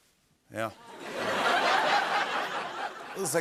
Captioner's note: laughter